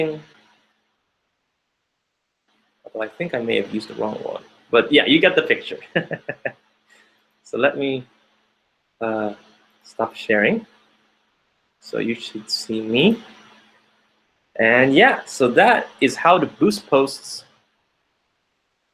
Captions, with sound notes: boosting all though I think I may have used the wrong one, but yeah, you get the picture. (laughing) So let me stop sharing. So you should see me. And yeah, that is how to boost posts,